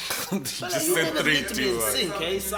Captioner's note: laughs